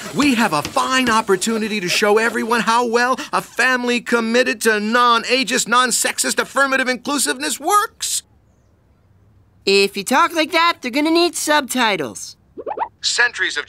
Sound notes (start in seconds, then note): none